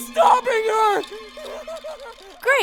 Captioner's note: hysterical laughing/crying of a broken man